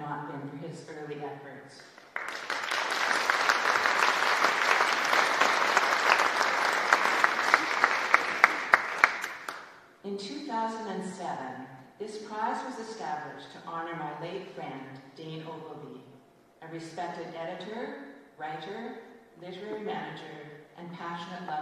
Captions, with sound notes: AND HE TOOK IT ON AND WE WOULD NOT BE HERE DOING THIS TONIGHT HAD IT NOT BEEN FOR HIS EARLY EFFORTS. [ Applause ] IN 2,007, THIS PRIZE WAS ESTABLISHED TO HONOUR MY LATE